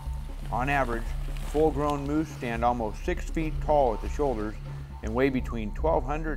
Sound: none

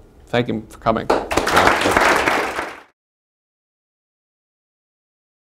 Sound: applause

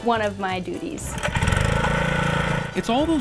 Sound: engine whirs

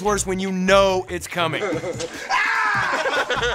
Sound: laughing

